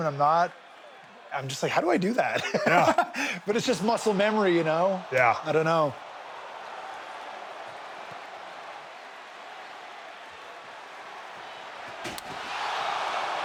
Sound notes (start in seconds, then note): 1.9 laughs; 7.2 audience cheers